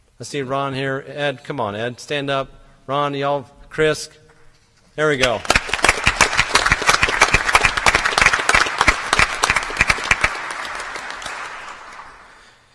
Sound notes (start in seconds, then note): 5.2 applause